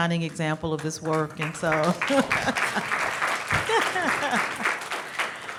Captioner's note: crowd applauds